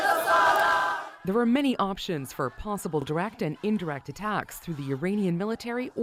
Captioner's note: chants